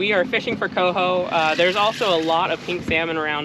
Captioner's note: reel cranking